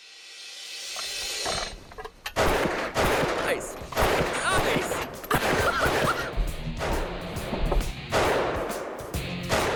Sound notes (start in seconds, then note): 5.3 laughs